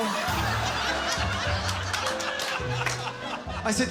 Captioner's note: laughter